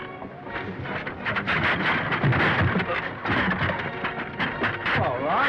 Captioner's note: chair clattering